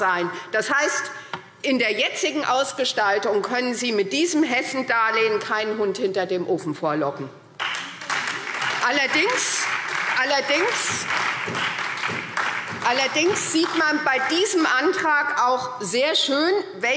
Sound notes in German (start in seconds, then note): 7.6 Beifall SPD und Freie Demokraten